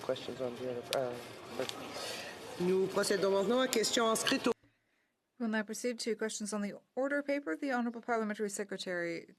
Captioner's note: speaking French